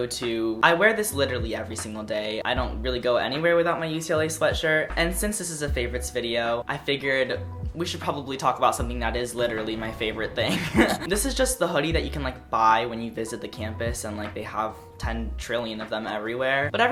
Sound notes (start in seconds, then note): 10.4 giggle